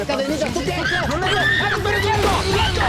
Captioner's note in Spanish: gritos